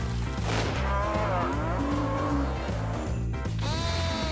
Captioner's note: cows moo